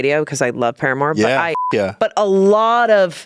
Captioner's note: beep